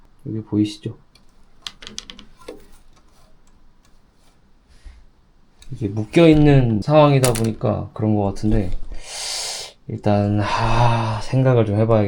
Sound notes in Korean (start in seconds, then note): 9.0 헉 소리; 10.4 한숨